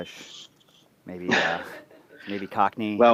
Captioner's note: laughter